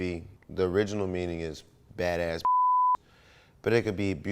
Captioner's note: beep